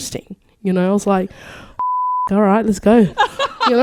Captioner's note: beep